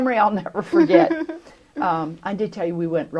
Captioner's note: laughter